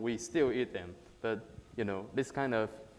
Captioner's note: none